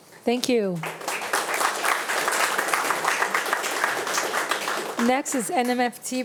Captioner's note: attendees and board members applauding